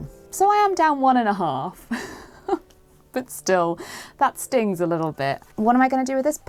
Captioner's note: chuckles